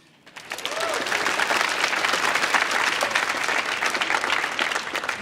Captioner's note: audience applauds